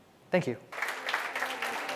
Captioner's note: applause